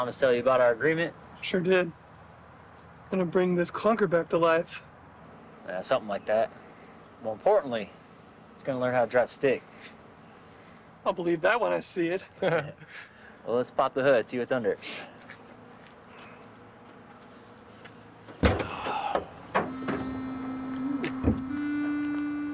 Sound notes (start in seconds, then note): 12.3 all laugh; 19.8 soft music